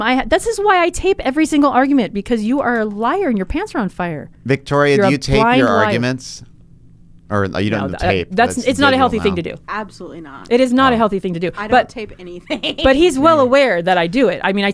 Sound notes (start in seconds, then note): 11.4 laughs